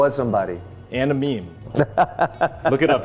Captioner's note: laughing